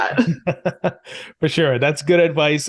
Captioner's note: chuckles